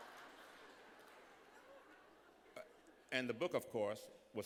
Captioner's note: laughter